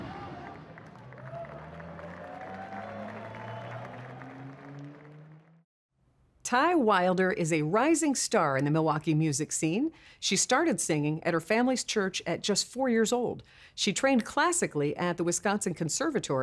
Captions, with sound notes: (upbeat electronic music continues) (audience cheering) (audience applauding) Ty Wilder is a rising star in the Milwaukee music scene. She started singing at her family's church at just four years old.